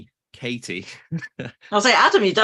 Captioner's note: chuckles